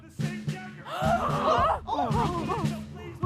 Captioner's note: gasping